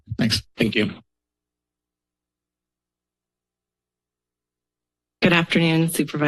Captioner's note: silence